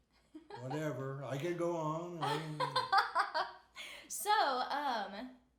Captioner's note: laughing